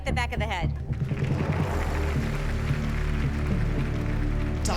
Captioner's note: applause